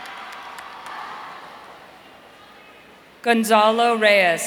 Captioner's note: audience cheering